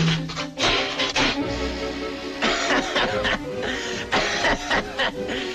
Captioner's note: bucket rattling; vulture crying